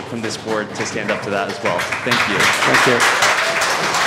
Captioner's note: applause